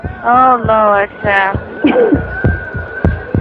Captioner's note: chchucuckleses